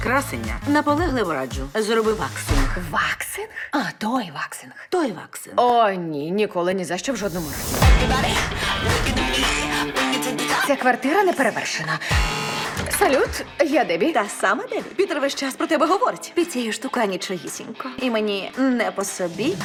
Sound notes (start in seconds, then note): 12.0 door buzzes